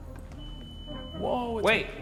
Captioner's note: light beeps